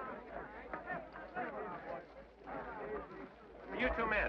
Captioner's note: men chatter